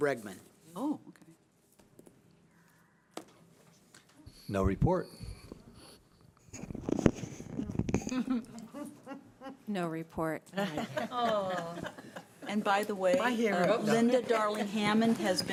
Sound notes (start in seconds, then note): 10.5 laughter